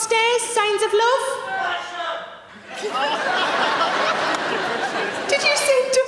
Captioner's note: audience member yells